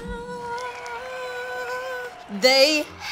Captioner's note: crowd cheering sounds